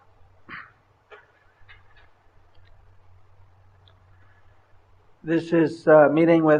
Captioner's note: laughter